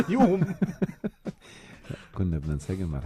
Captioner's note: laughter